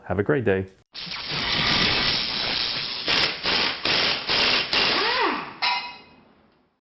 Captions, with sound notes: Have a great day. (logo whooshes)